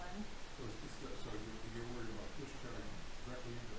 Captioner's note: man speaking